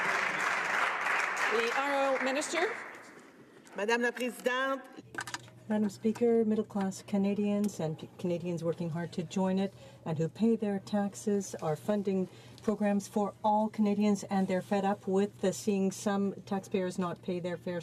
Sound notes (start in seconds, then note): 3.5 some Applause